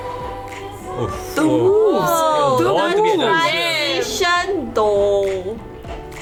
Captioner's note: collective gasps